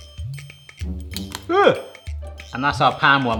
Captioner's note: patty splats